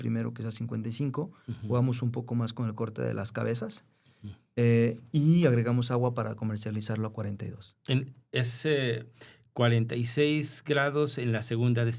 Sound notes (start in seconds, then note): 1.5 clears throat